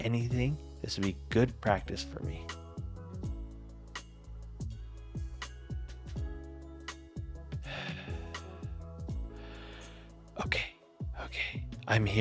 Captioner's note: heavy breathing